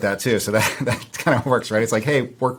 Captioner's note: chuckles